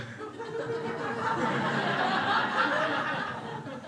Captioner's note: crowd laughing